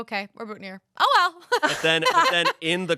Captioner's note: laughs